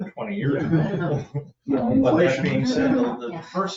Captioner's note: people chuckle